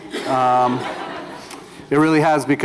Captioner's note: laughter